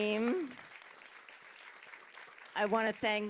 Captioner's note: audience applauding